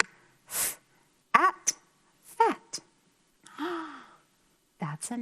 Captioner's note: gasps